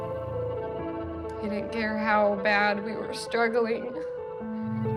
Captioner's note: tearfully